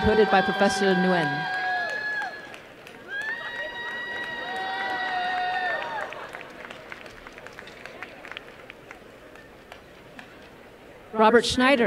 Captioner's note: applause and cheering